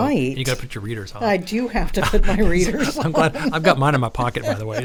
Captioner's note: laughs